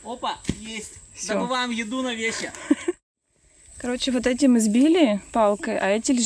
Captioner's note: laughs